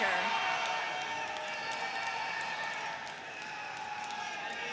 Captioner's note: audience cheers